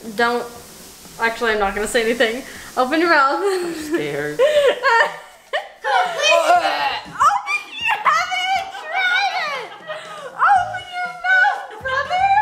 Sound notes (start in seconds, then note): 5.5 dry retching; 12.1 laughing